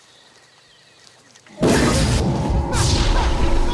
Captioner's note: growling